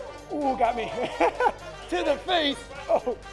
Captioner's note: upbeat electronic music; laughs